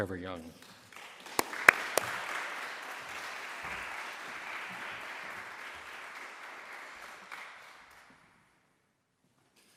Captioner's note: applause